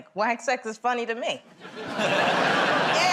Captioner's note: laughter